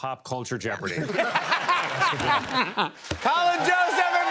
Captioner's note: laughter